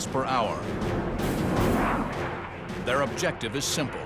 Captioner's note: engines blaring